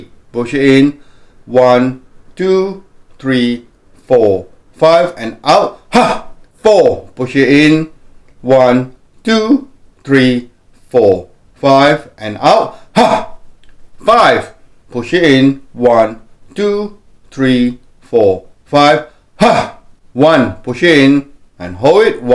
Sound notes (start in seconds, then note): 5.8 exhales; 12.7 exhales; 19.8 exhales